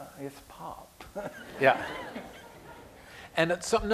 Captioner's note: laughter